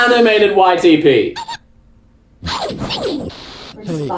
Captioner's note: loud and distorted